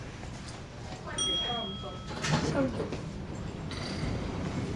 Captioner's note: elevator Bell Dings